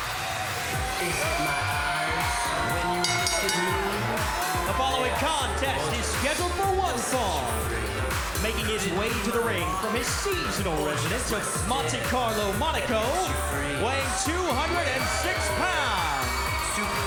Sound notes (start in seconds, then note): 9.3 crowd cheering; 10.1 bell ringing